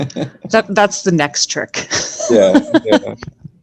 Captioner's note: laughing; laughing